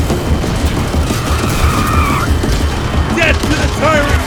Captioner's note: Several explosions rock the Worker's Mart; car tires screeching